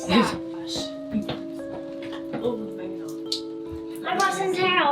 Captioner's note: people mumbling